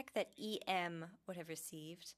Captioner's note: speaking French